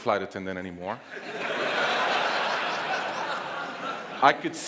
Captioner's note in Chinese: 笑聲